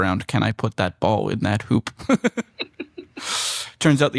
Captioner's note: laughter